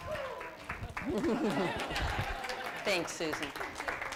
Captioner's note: laughter